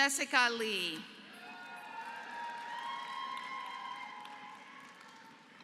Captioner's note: applause